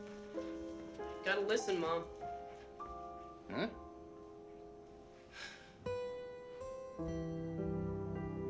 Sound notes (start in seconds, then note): 5.3 sighs